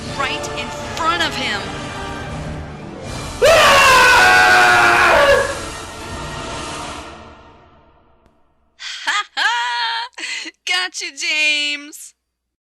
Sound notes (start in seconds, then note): 3.4 screams; 8.8 laughs